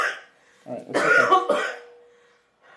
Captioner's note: coughing